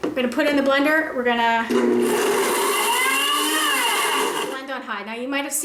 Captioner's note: blender whirs